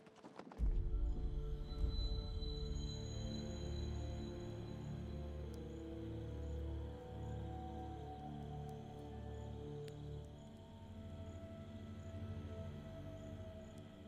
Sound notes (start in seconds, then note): 0.5 mysterious music; 5.4 campfire crackling